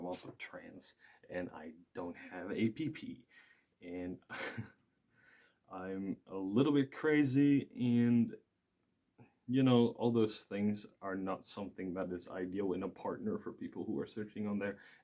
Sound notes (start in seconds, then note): 4.3 laughs